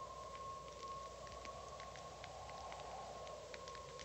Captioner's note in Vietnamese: Tiếng gió thổi; Tiếng cháy lép bép